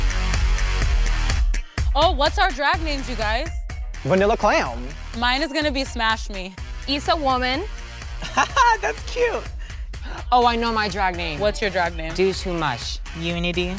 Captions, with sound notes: Oh, what's our drag names, you guys? - Vanilla Clown. - Mine is gonna be Smash Me. - Issa Woman. - ( chuckles ) That's cute. - Oh, I know my drag name. - What's your drag name? - Do Too Much. - Unity.